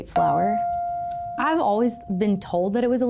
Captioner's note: chime pings